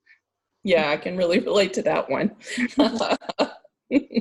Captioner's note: laughing